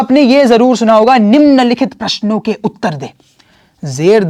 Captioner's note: Hindi